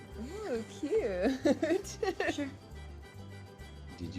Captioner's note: laughs